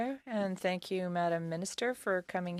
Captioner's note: speaking French